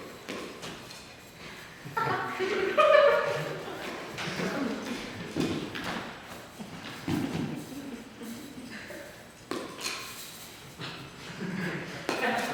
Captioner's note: continuous scattered audience laughter and reaction